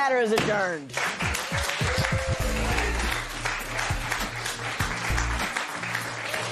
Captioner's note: cheers and applause